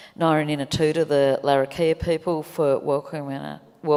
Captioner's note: speaks native language